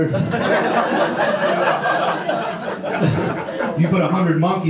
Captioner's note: audience laughter